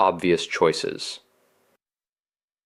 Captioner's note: pause